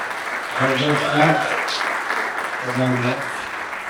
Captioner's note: audience applauds